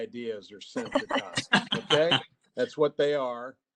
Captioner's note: presenters laughing